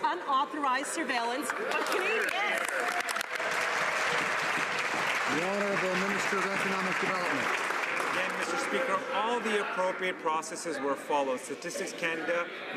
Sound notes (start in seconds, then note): 5.2 some Applause